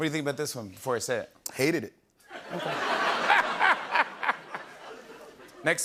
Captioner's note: laughter